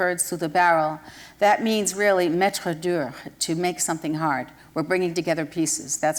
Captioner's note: french